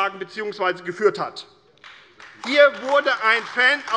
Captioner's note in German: Beifall AfD